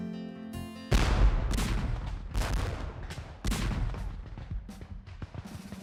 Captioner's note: explosions